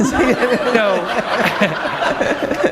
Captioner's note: laughter